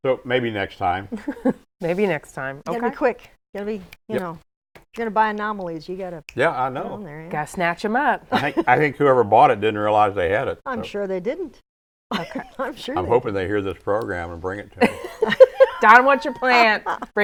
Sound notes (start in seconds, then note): 1.2 laughs; 5.3 snaps fingers; 12.1 laughs; 14.8 laughs